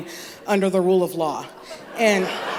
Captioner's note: laughter